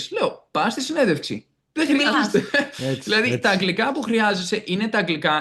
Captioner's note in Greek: γέλια